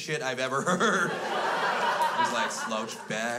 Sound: crowd laughs

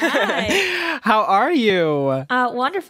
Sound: chuckling

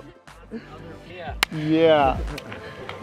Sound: hands clapping

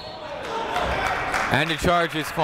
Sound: whistle blowing; clapping

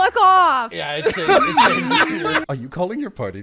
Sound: laughter

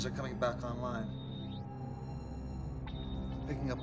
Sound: beeping

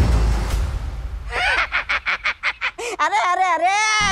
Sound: cackles

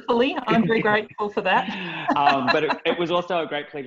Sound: laughs

